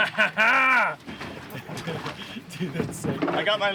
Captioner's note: laughing